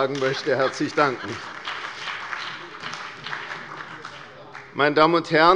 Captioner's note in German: Heiterkeit und Beifall bei der CDU und dem BÜNDNIS 90/DIE GRÜNEN